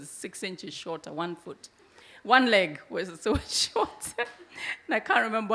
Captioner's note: chuckles